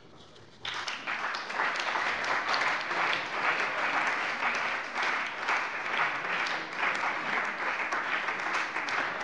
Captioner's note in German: Beifall bei der CDU und dem BÜNDNIS 90/DIE GRÜNEN